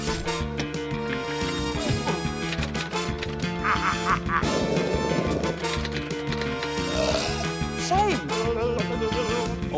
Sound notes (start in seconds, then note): 3.4 laughs maniacally; 6.7 burps